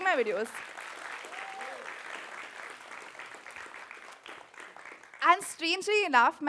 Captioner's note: applause